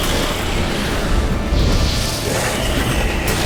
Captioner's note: flames whoosh